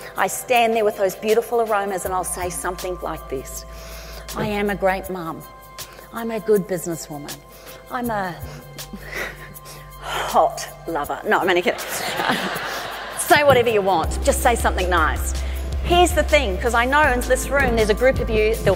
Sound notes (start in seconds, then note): 8.7 laughs; 11.9 audience laughs